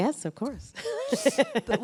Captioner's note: laughter